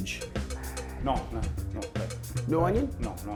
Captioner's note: sighing